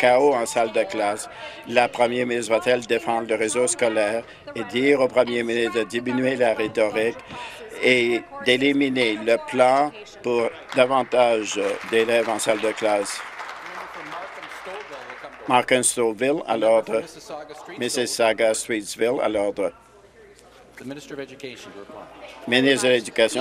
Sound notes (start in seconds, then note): 15.0 applause